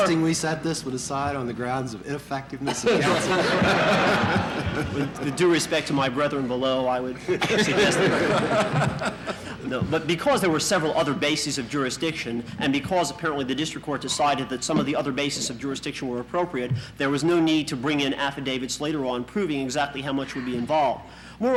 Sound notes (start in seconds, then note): 2.6 laughter in the courtroom